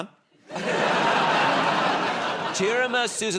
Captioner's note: laughter